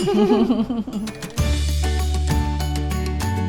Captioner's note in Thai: เสียงหัวเราะ